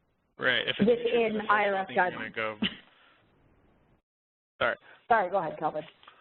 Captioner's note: laughs